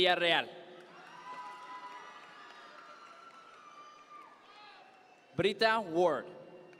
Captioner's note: audience members cheer